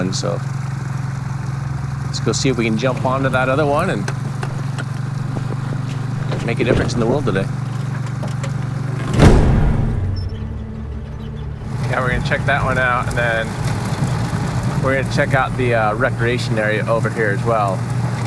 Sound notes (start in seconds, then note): 9.1 door slams; 10.4 tense music